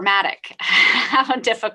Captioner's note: laughs